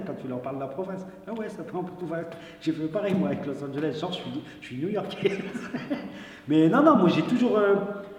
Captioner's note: laughs